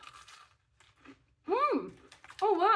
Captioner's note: crunch